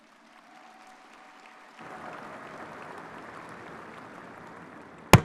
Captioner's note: crowd cheering